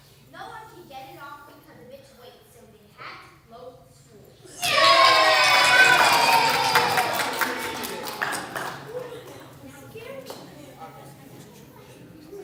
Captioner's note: YAY, cheers, laughter